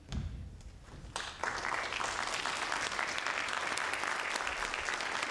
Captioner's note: audience applauds